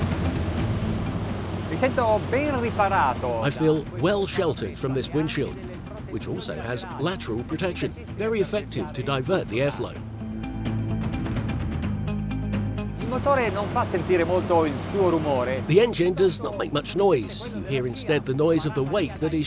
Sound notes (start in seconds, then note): 0.0 intense music; 9.8 intense music; 14.1 speaking foreign language